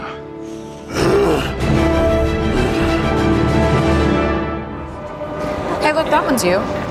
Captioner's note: heroic music; Hulk grunting